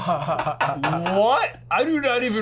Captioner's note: laughter